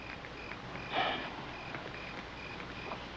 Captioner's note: sighs